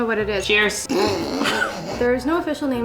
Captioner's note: both laughing